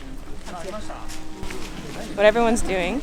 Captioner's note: crowd speaking in Japanese